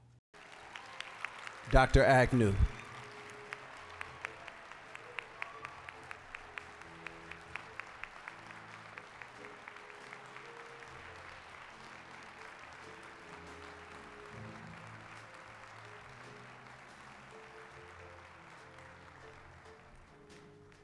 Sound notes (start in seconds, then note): 0.1 applause; 4.0 applause